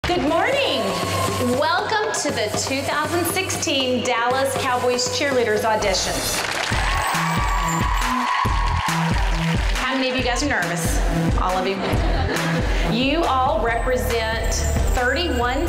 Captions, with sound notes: - Good morning! Welcome to the 2016 Dallas Cowboys Cheerleaders audition. (women cheer) (upbeat pop music) How many of you guys are nervous? All of you? (women laugh) You all represent 31 states,